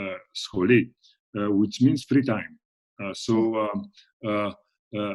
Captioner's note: speaks in foreign language